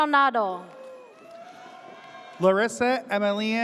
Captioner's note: audience cheers